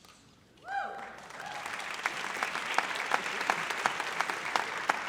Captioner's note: audience applauds